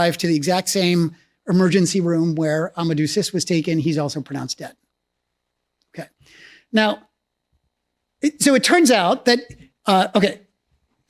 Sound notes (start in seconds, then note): none